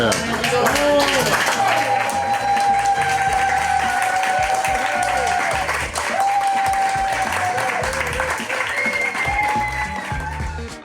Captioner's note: crowd clapping and cheering